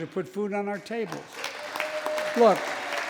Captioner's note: applause